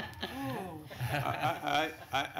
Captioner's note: laughter